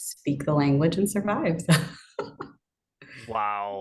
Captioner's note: laughing